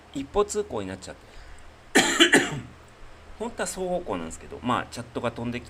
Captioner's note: cough